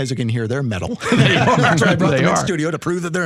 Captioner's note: laughing